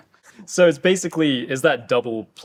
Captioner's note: chuckling